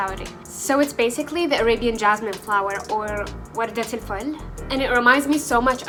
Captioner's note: in Arabic